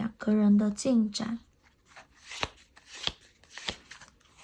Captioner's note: drawing cards